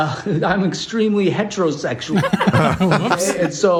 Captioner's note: laughs